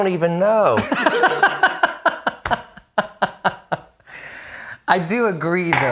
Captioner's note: laughs loudly